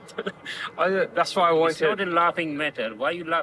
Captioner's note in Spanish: risas